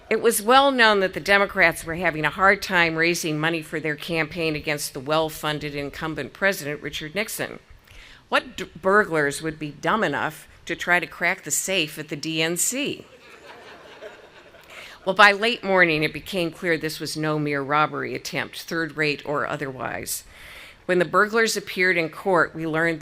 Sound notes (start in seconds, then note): 13.1 audience laughing